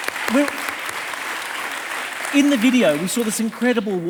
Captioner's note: audience applauding